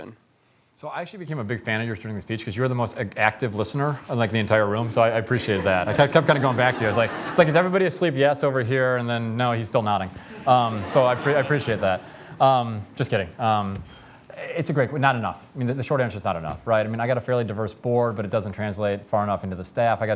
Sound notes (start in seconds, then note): 10.3 laughter